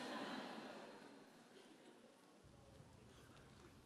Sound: audience chuckles

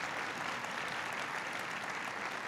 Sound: applause

